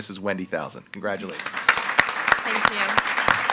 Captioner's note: all applauding